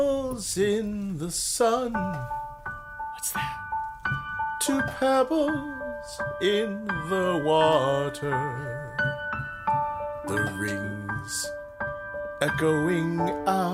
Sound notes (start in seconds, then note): 0.0 singing; 3.5 whispering